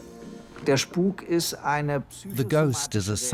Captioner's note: speaks in German